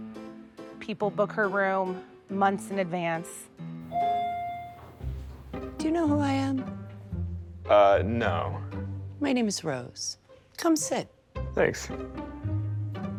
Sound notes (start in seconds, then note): 3.9 elevator chiming; 11.8 jaunty music continues